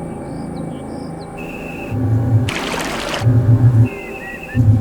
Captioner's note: birds chirping